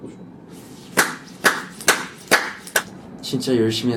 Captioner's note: applause